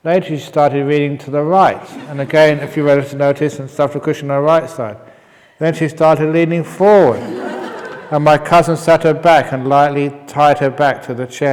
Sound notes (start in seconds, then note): 6.6 laughs